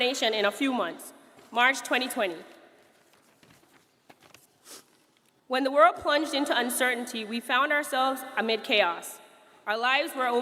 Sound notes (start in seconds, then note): none